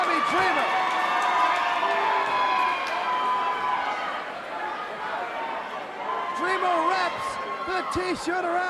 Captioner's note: crowd cheering